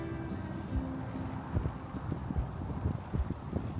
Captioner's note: wind